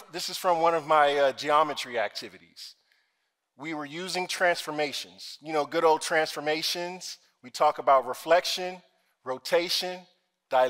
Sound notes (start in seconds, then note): none